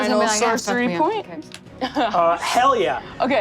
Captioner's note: laughs